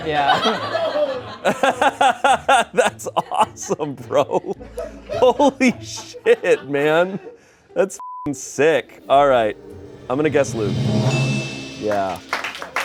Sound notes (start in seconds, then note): 0.1 everyone laughs; 8.0 beep; 10.1 bell chimes